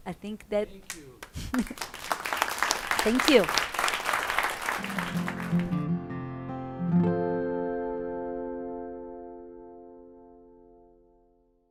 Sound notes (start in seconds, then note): 0.8 audience claps; 3.7 acoustic music